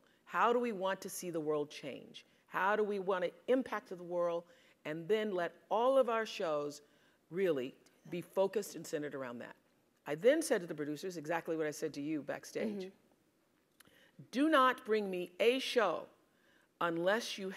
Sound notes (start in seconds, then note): none